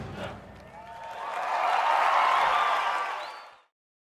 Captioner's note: people cheering